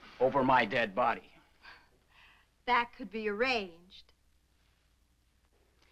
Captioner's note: none